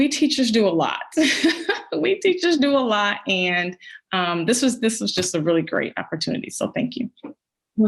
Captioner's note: laughs